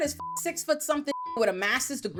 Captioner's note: beep